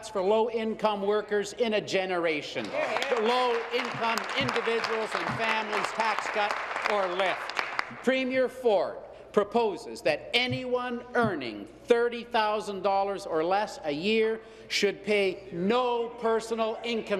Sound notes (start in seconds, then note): 6.3 applause